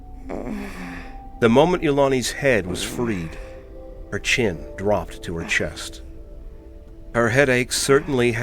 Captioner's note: Ilani groaning deeply